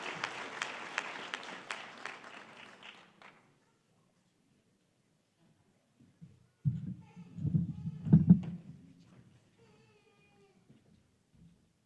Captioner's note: applause